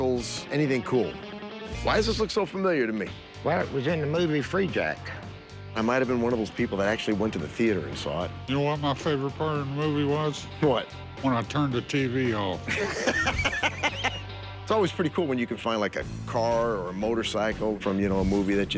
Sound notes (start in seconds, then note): 12.7 laughs